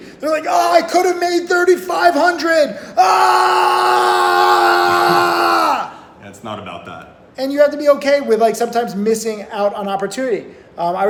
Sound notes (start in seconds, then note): 3.0 yelling; 5.6 laughing